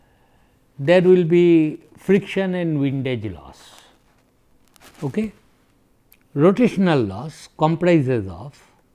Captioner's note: friction